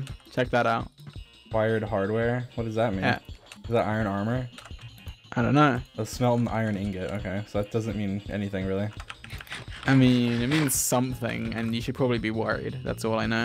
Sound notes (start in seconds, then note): none